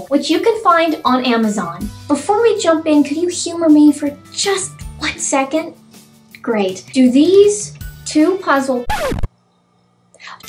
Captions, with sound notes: which you can find on Amazon. Before we jump in, can you humor me for just one second? Great. Do these two puzzle--? *record scratches*